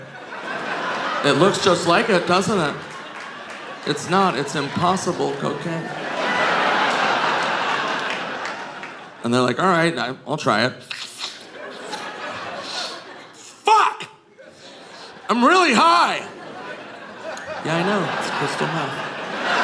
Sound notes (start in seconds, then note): 0.2 audience laughing; 6.2 audience laughing; 12.5 Nick imitates sniffing; 19.4 audience laughing